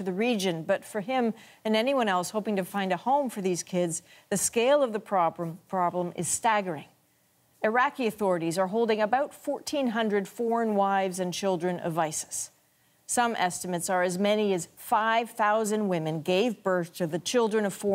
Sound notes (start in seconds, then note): none